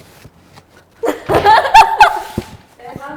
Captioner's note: laughing silently